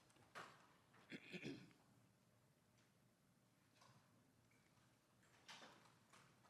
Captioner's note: interpreter clears throat